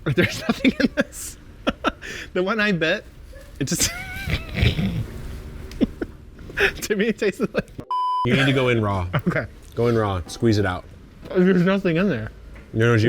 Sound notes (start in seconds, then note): 0.0 laughs; 3.3 laughs; 7.9 audio beeps